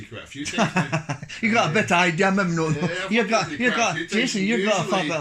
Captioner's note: laughs